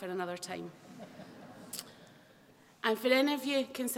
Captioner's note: laughter